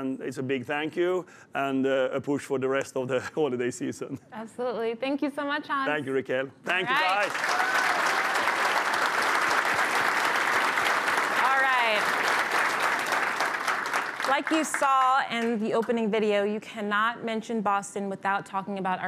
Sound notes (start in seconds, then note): 8.8 applause